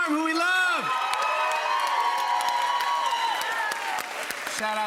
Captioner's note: cheers and applause